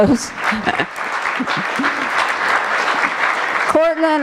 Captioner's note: applause